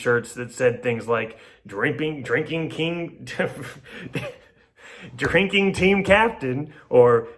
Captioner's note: laughs